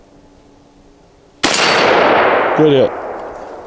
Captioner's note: gunshot